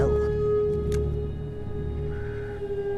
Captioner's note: gun cocks